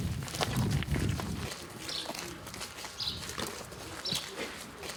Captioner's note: birds chirping